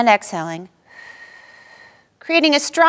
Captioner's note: exhaling